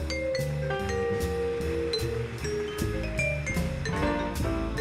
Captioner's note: audience applauding